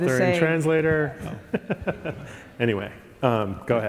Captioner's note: chuckling